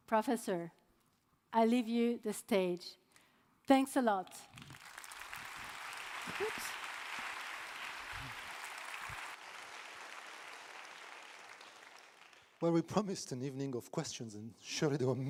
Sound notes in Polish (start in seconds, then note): 4.5 oklaski